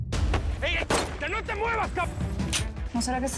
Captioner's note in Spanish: Disparos